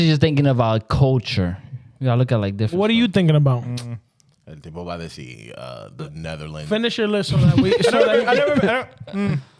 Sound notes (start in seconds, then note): 7.4 laughing